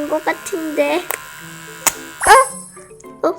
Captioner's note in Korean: 위잉